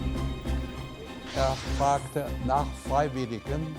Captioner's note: speaking german